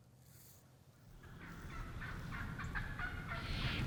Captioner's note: turkey’s chirping